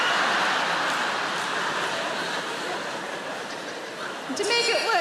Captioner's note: audience laughing